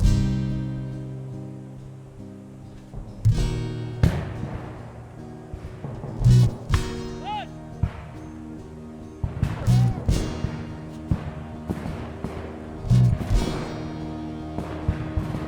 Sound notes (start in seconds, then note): 5.5 gun fires; 11.4 gun fires